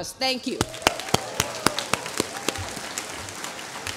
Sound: applause

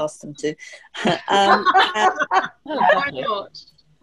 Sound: laughter

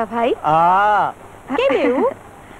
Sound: chuckles

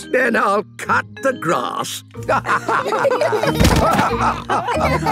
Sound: laughter

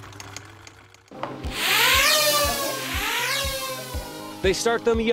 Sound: drone whirring

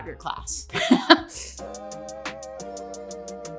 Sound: laughs

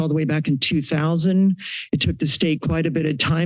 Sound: inhales

